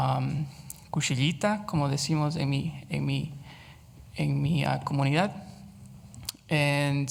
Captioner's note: speaks Spanish